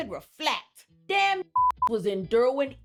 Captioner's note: beep